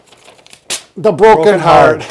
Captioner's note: paper tearing